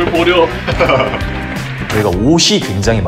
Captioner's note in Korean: 웃음소리